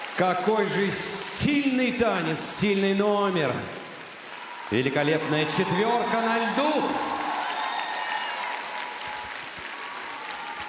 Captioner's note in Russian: аплодисменты; ликование; аплодисменты